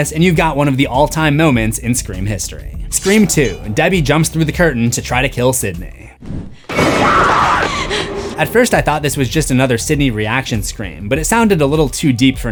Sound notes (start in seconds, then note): 6.6 screams